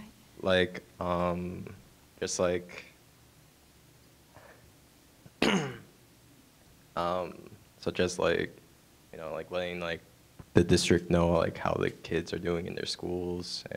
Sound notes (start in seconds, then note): 5.4 clearing throat